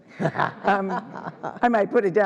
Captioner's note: ALICE laughing